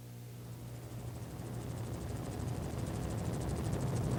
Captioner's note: helicopter whirring